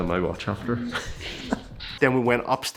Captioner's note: laughs